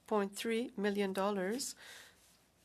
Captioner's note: speaking french